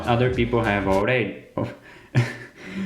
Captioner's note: Waluigi accent